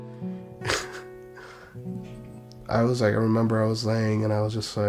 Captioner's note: warm pensive music; laughs